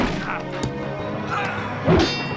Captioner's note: wooshing